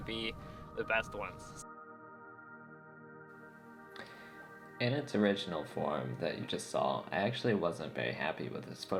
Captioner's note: voice over